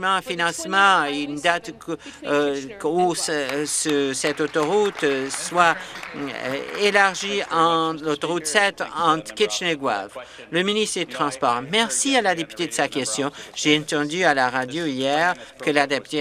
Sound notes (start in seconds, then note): 6.9 applause